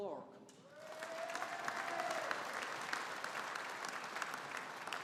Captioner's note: audience applauding